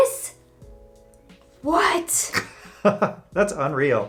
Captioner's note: laughs